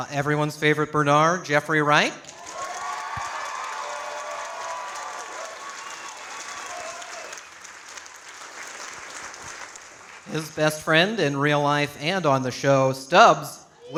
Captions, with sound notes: Everyone's favorite, Bernard, Jeffrey Wright. (audience applauding) His best friend in real life and on the show, Stubbs,